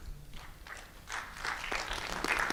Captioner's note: applause